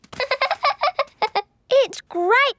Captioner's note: laughing